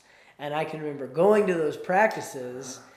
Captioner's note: none